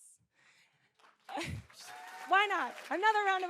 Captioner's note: audience cheering and applauding